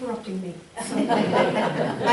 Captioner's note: audience laughing